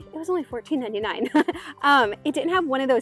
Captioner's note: chuckles